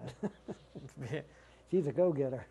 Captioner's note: laughter